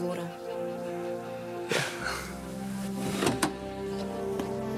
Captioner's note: John laughs